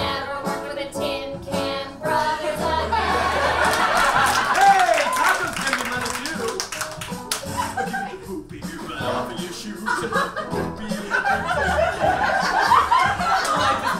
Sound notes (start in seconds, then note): 5.0 audience laughs and applauds